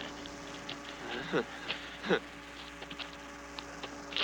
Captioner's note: chuckling